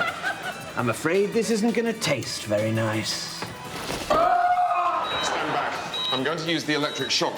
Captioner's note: groaning